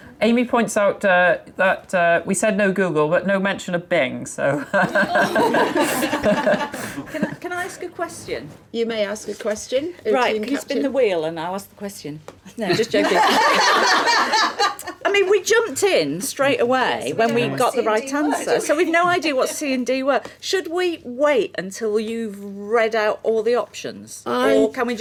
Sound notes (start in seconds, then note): 4.8 laughing; 13.0 laughing